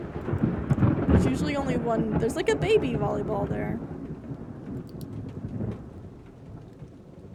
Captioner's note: thunder; thunder Continues